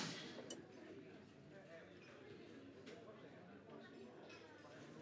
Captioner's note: crowd chattering